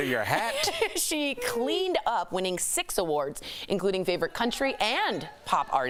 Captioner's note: laughter